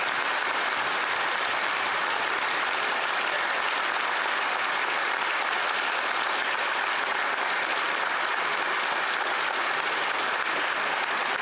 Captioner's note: applause